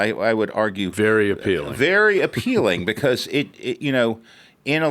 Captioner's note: laughs